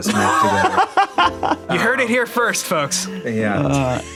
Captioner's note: laughs